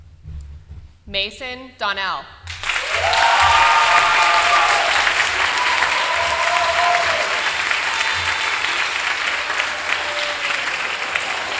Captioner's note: applause